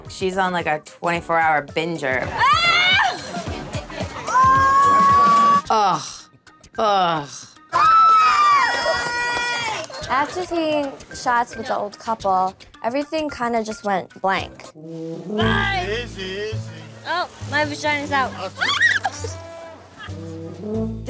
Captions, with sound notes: She's on like a 24 hour binger. (gleefully yelling) - Ugh. Ugh. (cheering) - After taking shots with the old couple, Everything kind of just went blank. Bike! - Easy, easy. - Oh. My vagina's out. (screams)